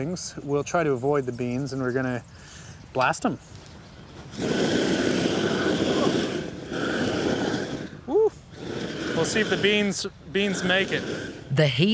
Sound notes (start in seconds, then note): 4.2 flame thrower whooshes